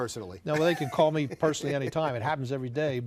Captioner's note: laughs